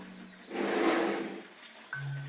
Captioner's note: snorting